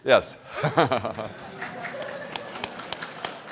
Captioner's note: laughter; applause